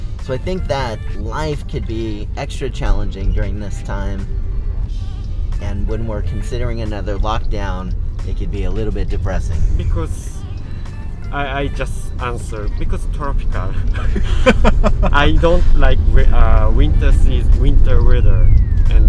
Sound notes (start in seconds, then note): 13.6 laughing